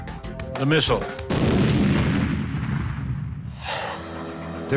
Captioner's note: explosion